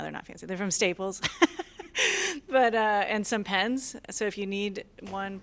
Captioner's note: laughter